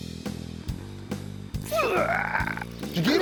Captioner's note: grunting